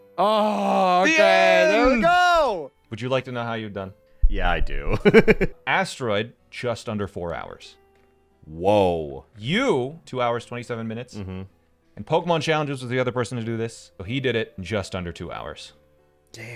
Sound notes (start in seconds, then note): 5.0 laughing